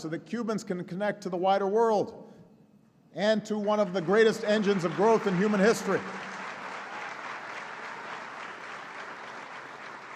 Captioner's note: applause